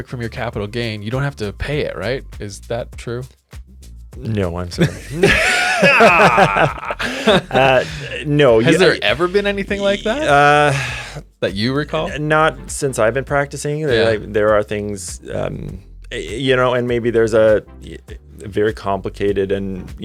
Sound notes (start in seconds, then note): 4.8 both laugh